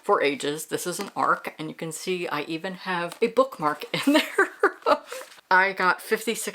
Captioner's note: laughs